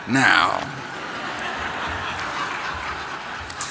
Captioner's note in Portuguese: Risos